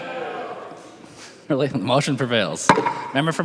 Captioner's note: chorus of ayes